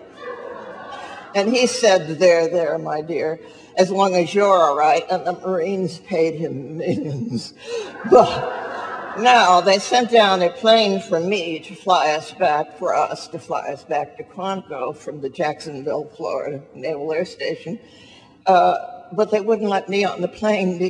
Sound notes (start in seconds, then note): 0.0 audience laughing; 7.8 audience laughs